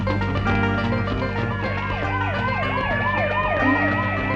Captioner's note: siren